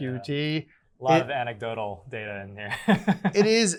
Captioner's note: chuckles